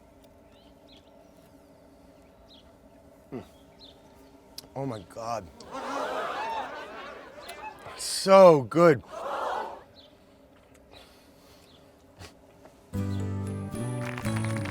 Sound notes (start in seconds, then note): 5.6 audience gasps; 12.9 feel good music